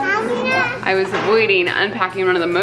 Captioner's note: child mumbling